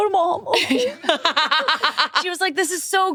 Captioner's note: laughing